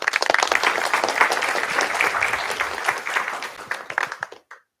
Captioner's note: applause